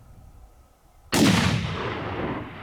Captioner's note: gunshot